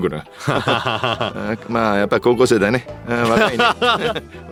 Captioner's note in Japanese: 笑い